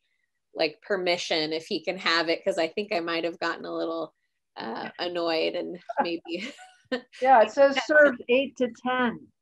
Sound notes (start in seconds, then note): 5.9 laughs